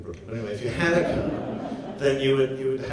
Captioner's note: audience laughs